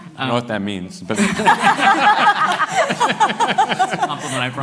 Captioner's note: laughter